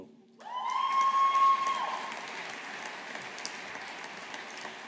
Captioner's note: audience applauding